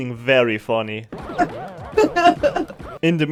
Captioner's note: laughs